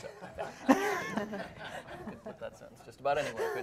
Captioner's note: laughing